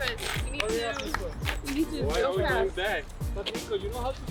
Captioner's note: group chatter